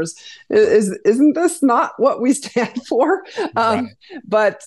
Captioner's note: laughs